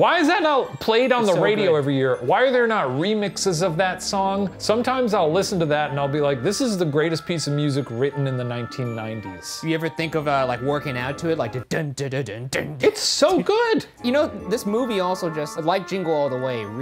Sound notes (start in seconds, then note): 11.7 mimicking Christmas music